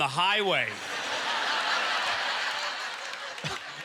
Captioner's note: audience laughter